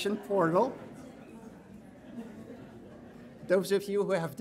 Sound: audience laughing

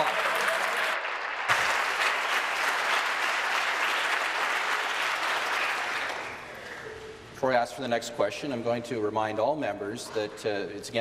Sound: applause

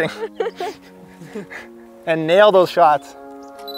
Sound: laughter

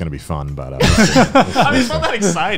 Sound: laughing loudly

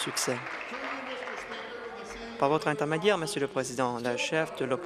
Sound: applause

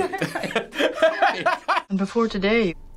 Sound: laughing

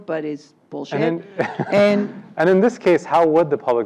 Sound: laugh

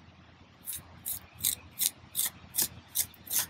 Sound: trowel scraping

